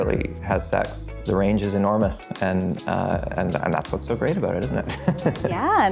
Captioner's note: laughs